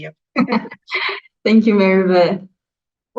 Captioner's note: chuckles